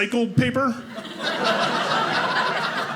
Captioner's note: audience laughing